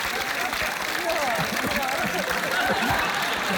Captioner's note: coughs